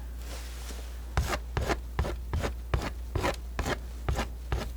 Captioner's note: scratching